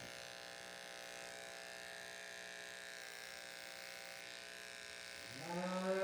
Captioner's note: buzzing noises; mooing noises